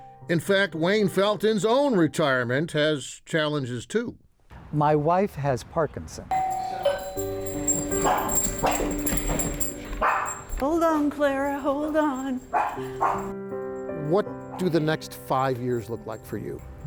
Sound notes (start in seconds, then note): 6.3 doorbell rings; 10.0 dog barks; 12.5 dog barks